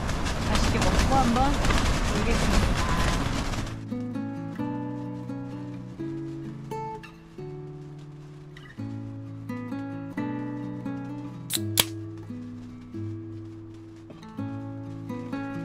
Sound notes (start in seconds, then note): 11.4 the sound of opening a can was added separately